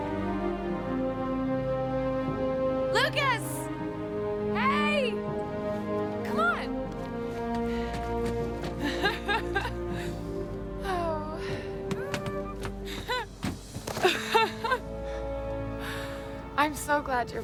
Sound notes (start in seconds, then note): 8.8 female laughter